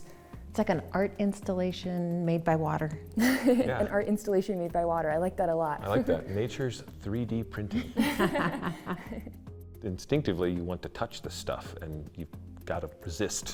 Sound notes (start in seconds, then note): 7.6 giggling